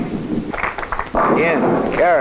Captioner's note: ball rolling on floor; tenpins rumbling